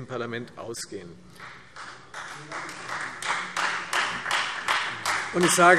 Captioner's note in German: Beifall Freie Demokraten und vereinzelt CDU